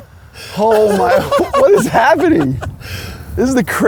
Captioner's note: laughs